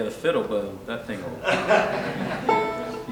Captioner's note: laughter